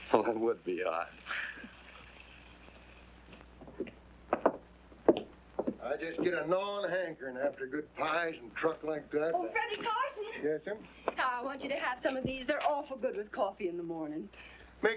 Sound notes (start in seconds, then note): 1.3 both chuckling